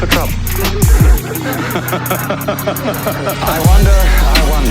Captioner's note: people laughing